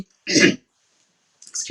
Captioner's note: coughs